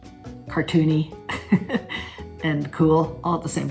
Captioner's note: Catharine laughs